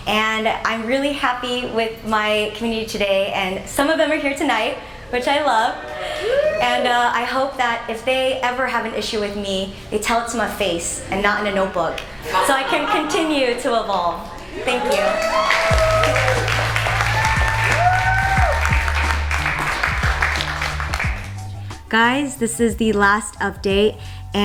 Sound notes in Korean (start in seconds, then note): 14.8 박수소리; 18.3 응원소리